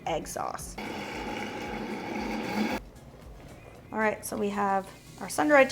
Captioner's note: blender whirring